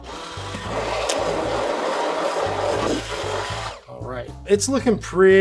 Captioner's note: blender whirring